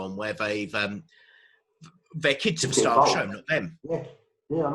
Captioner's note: murmurs